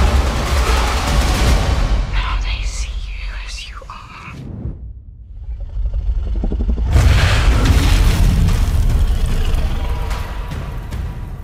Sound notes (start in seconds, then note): 0.2 music climaxes; 1.7 whispering; 5.4 dragon grumbles